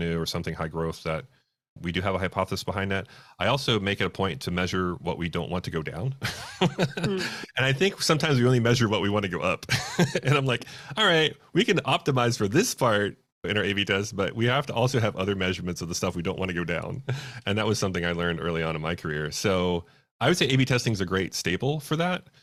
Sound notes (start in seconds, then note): 6.2 laughs; 9.7 laughs